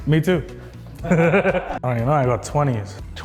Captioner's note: laughing